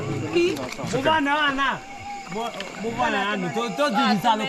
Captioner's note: villagers shouting